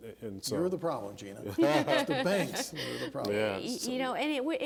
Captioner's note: laughing